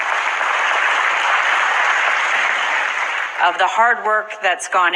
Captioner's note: crowd